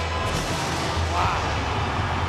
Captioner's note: thunder rumbles